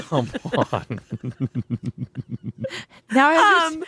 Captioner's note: laughing